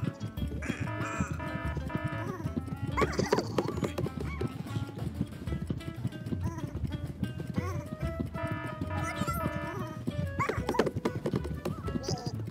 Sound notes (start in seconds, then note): 0.6 clock buzzes; 8.3 clock buzzes